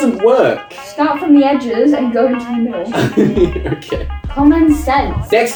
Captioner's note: chuckles dismissively